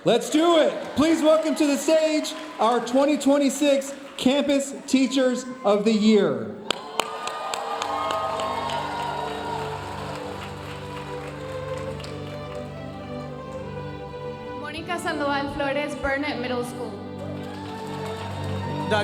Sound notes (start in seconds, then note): 6.6 audience cheering and applauding; 10.5 audience applauding; 10.5 gentle lively music; 17.0 audience cheering and applauding